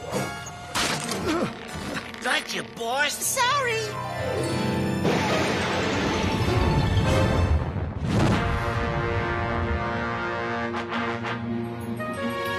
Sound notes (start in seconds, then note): 5.1 wreaker rumbles away